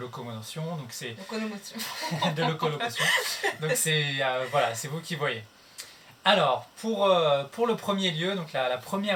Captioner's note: laughs